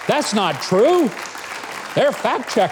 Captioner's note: audience applauding